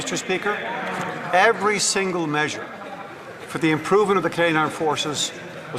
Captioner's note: some Applause